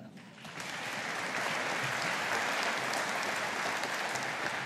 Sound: audience applauding

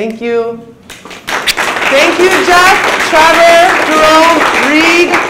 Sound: audience applauds

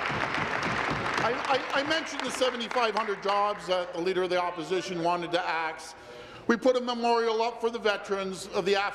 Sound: applause

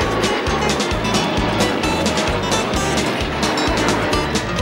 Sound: whistle blowing

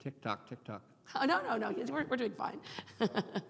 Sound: laughing

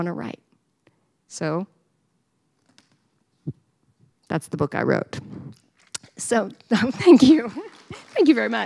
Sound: applause

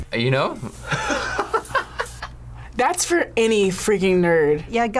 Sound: laughs

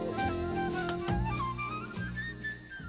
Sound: button clicks

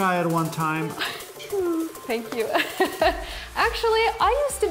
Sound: laughing

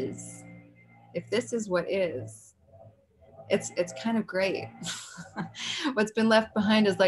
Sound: chuckles

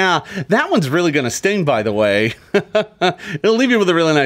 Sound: laughs

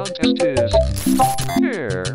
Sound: glitch

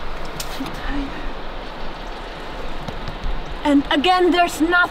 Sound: mumbles under her breath

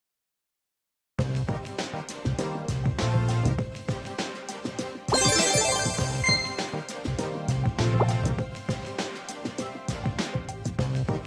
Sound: in-game Sounds

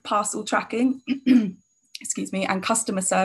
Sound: clears throat

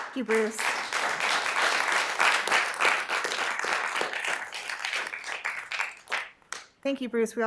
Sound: applause

